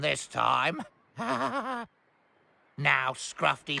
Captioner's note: giggles